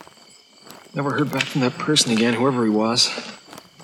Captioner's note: static crackling